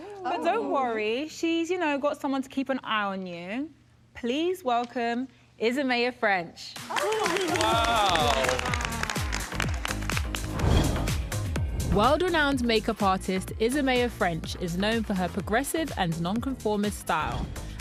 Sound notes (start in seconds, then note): 8.8 applause; 8.8 vibrant music